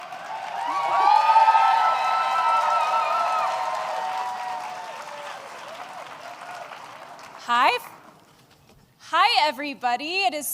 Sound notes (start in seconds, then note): 0.0 applause